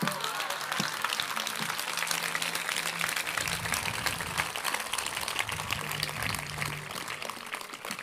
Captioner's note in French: Applaudissements